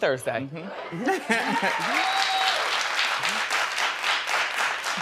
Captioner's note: audience applauding